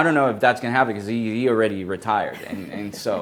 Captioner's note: laughs